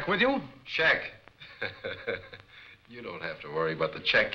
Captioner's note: laughs